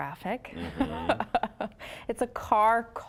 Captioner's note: laughing